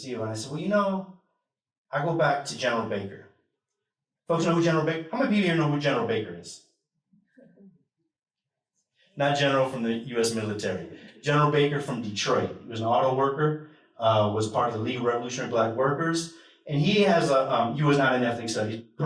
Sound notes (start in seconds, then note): 7.3 silence